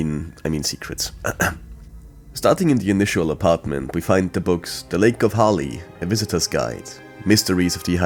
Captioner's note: coughs